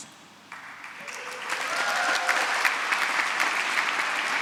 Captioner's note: applause